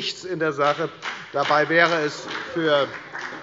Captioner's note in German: Beifall bei der FDP